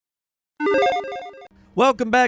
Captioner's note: electronic chime